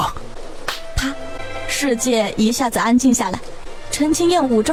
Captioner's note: slap